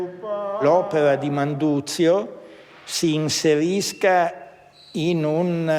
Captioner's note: speaks in foreign language